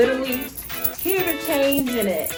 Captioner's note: coins jingling